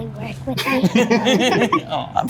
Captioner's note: group laughing